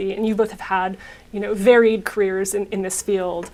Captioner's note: none